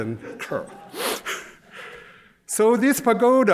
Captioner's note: laughter